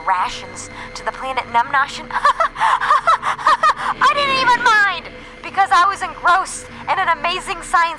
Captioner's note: laughs